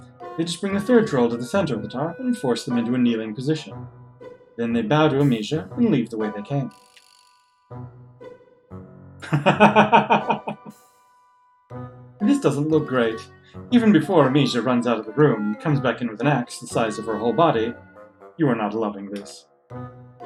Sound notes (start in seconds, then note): 9.2 laughs